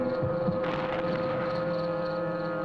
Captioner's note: fire sparking